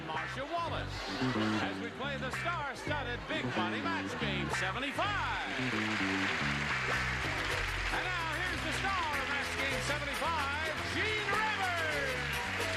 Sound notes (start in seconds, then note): 6.1 audience applauding